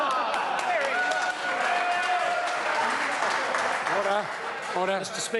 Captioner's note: members applaud